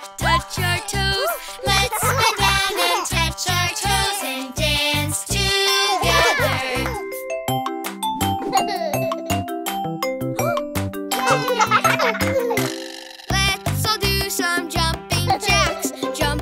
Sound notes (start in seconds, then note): 7.5 upbeat music; 9.4 children laughing